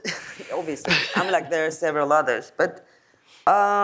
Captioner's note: laughs